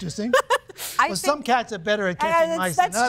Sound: judge laughing

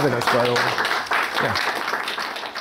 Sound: audience applause

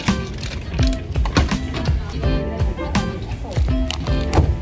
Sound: drawer thudding; packet crackling

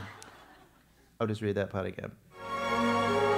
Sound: laugh

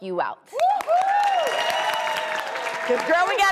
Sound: cheering and applause

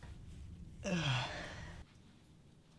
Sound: sighs

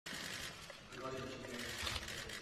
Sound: camera shutters

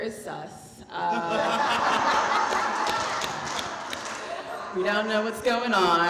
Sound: audience laughing

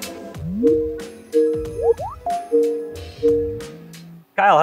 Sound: computer call ringing

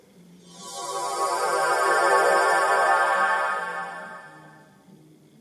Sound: transporting away sound

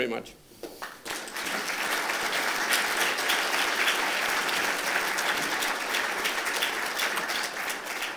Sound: applause

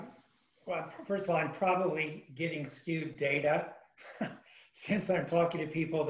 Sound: laughs

